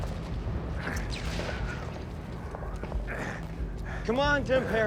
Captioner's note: soldier shouting in surprise; grunting in effort